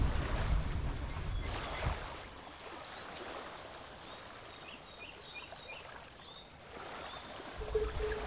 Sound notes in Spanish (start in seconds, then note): 0.8 agua chapoteando; 4.4 pájaros cantando